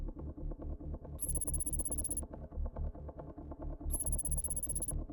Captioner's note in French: texte vrombissant